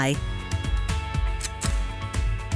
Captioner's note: click